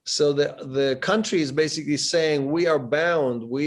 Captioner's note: none